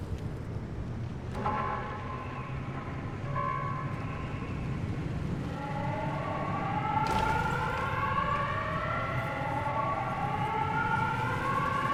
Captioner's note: air raid siren